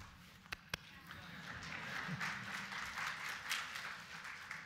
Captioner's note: applause